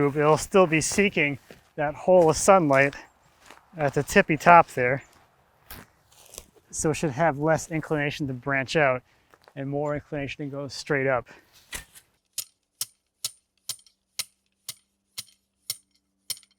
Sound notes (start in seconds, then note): 13.6 stake tapping